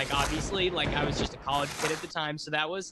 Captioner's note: thunder booms; papers shuffle